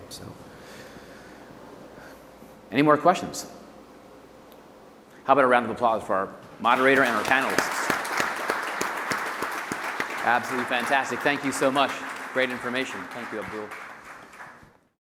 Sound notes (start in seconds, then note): 9.2 audience applauds